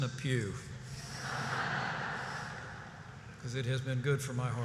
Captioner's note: laughter